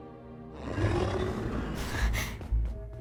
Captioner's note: Kaufmo growls; sneaky music plays